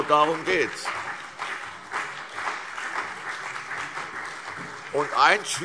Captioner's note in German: Beifall CDU und BÜNDNIS 90/DIE GRÜNEN